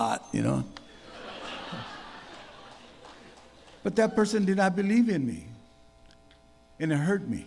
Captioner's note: laughter